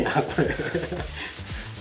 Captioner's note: laughs